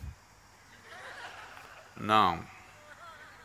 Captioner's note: gestures - Laughter; laughs